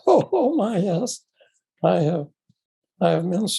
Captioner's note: chuckles